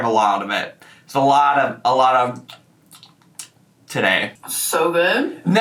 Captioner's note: chews